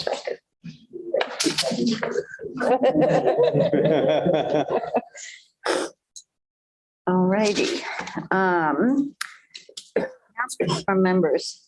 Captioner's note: laughter